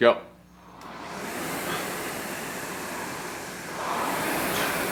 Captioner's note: machine whirring